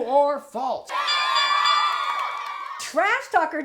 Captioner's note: cheering!; ding! ding! ding!